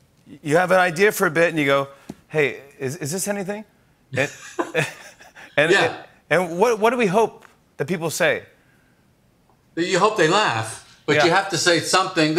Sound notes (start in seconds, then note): 4.1 both laugh